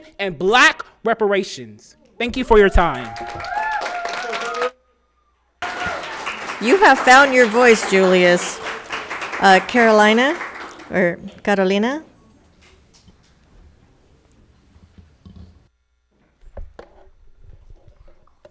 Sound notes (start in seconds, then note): 3.6 audience applauds; 3.6 people cheers